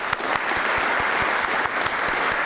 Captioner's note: applause